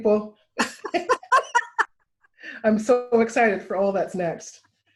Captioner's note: laughter